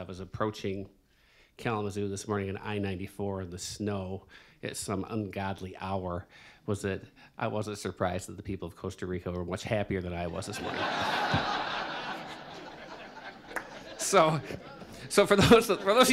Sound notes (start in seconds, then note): 14.9 laughter